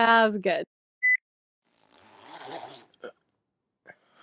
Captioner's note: zipper